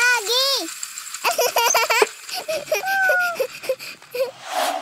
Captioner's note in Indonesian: tertawa